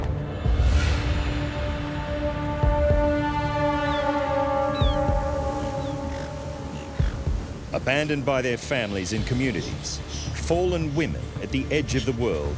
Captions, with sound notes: [ominous music] [seagull chirps] Abandoned by their families and communities, fallen women at the edge of the world...